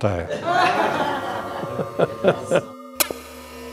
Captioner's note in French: rires